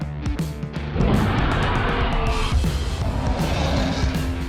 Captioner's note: roars